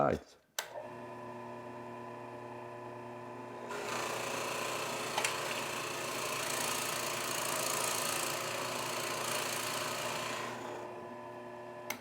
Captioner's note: drill Press Noise